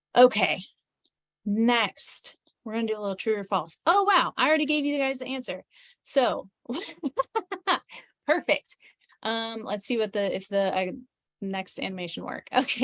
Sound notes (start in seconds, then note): 6.7 laughs